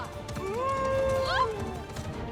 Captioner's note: howl